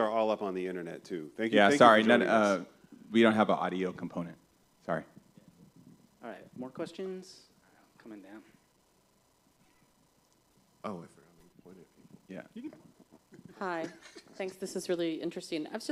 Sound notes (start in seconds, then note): 12.4 laughter